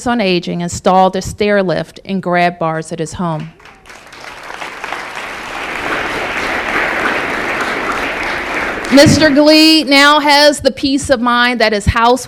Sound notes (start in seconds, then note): 3.4 applause